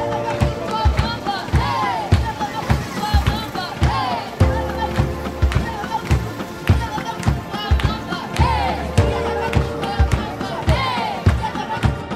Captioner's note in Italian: Applauso